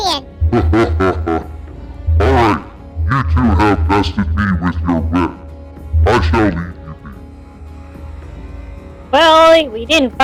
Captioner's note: laughing